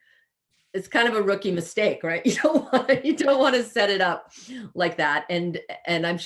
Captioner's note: laughing